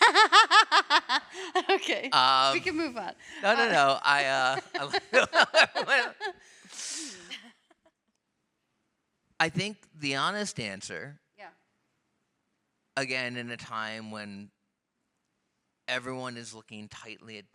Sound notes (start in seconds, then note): 0.0 laughs; 3.3 laugh